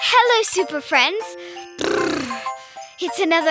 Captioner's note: shivering